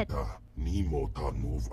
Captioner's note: non-english speech